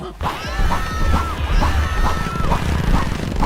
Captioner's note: screaming